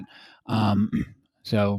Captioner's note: clears throat